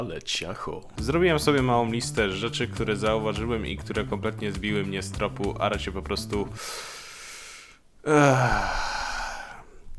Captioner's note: another deep breath